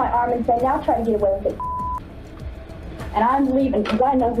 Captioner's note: beep